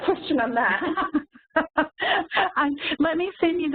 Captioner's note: laughing